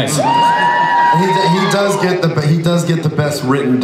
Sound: audience cheers

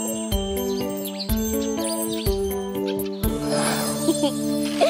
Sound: birds chirping

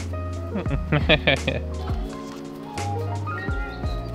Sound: laughing

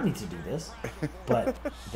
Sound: laugh

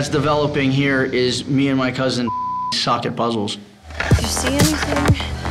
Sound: beep

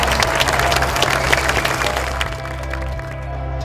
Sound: applause

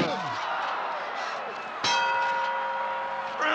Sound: ring

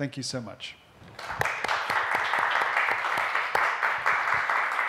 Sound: applause

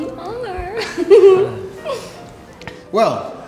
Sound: giggles smugly

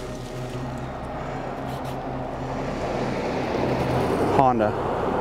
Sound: traffic rustling

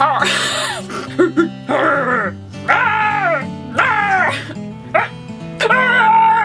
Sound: laughs; growls

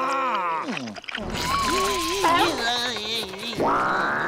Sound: disgusted groaning

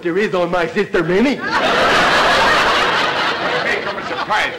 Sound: audience laughter

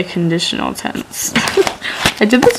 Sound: laughs

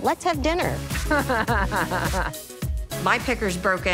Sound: laughs

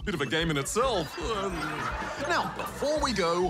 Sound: laughter; chuckles

